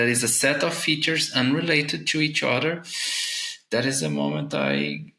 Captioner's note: inhales sharply